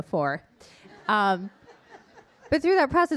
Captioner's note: audience laughing